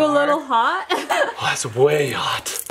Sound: person laughing

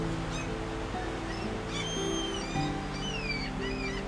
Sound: seagulls caw

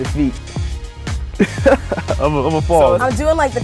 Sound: laughs

